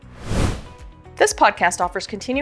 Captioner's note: whoosh Sound